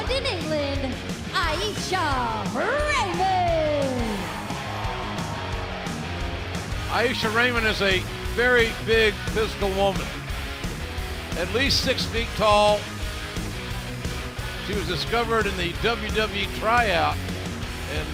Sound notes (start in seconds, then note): 4.8 cheers and applause